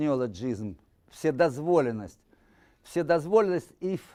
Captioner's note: speaking Russian